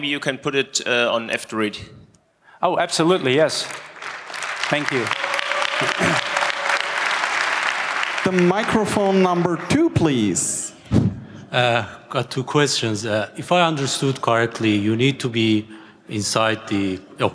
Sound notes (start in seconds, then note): 3.2 applause